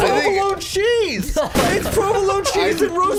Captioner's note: laughs